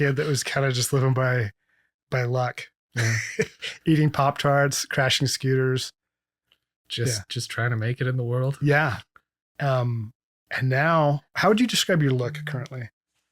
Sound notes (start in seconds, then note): 2.9 laughs